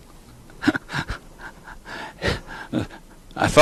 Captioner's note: laughs